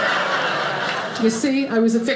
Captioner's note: audience laughing